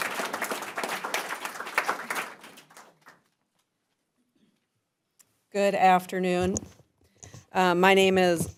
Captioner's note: applause